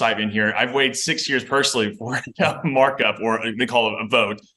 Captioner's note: chuckles